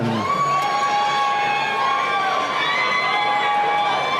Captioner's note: cheering